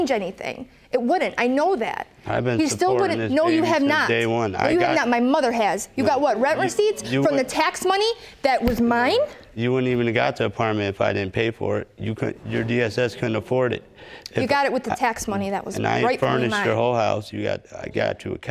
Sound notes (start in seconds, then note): none